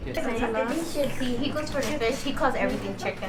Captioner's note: talking